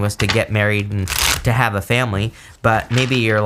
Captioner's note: cards shuffling